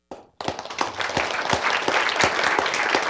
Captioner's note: applause